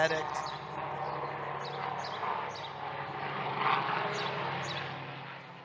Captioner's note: helicopter flies overhead